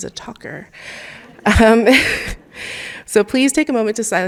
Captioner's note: chuckling; audience chuckling